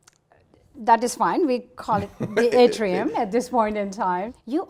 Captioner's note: laughs